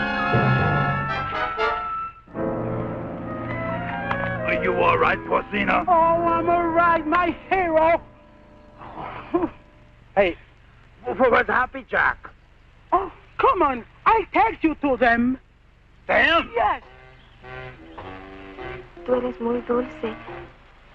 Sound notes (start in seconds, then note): 11.2 soft instrumental music; 12.8 Mango speaking in Spanish